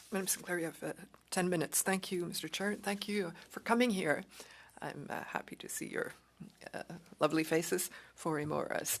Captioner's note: speaking French